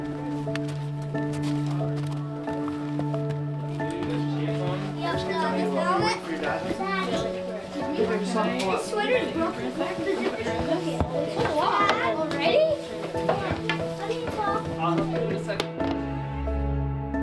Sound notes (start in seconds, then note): 0.1 gentle music continues; 4.0 people chatting; 11.0 gentle music continues